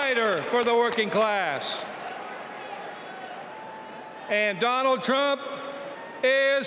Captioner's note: applause